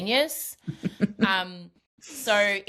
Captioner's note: laughs